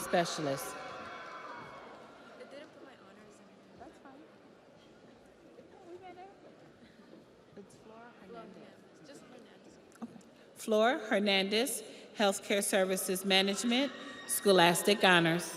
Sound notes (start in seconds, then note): 0.7 audience applauds; 1.7 audience cheers